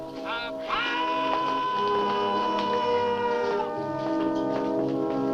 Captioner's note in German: man yells